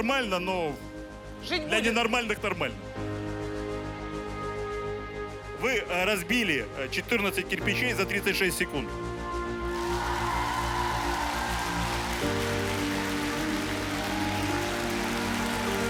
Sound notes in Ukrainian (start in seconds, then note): 9.7 оплески